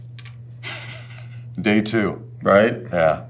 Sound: laughs

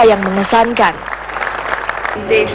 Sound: applause

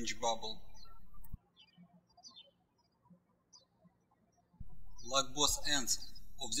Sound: birds chirping

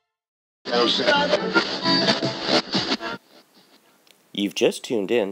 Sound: radio tuning

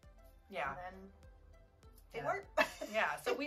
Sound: laughs

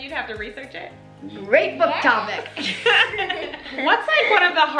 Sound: laughs

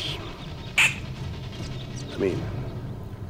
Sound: animal squeaking

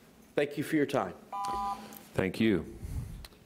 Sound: beep

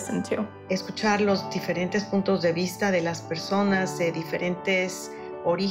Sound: speaking foreign language

